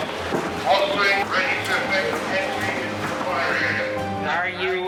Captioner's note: radio sounds